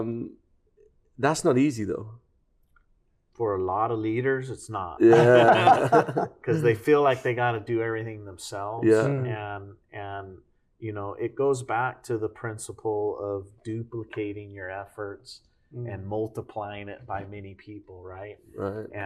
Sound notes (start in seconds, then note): 5.0 laughter